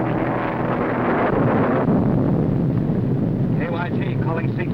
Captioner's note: thunder rumbling; plane whirring